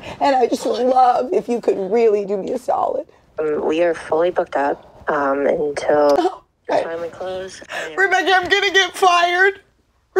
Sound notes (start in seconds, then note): none